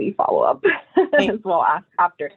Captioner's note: laughs